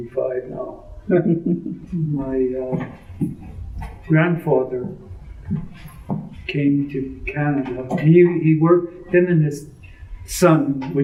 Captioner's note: laughs